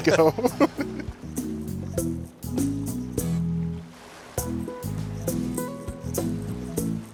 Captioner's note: waves crashing; rhythmic music